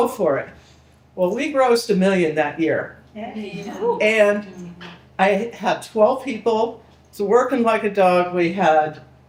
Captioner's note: people cheering